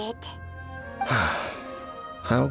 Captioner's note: sigh